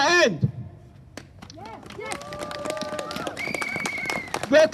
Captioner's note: applause